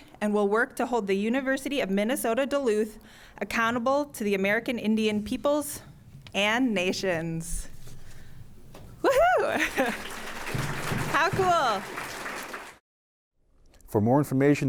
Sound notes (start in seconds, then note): 9.6 applause